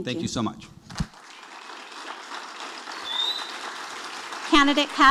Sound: audience applauding

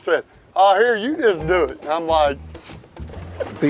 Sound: laughing

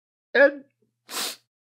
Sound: stifled sob

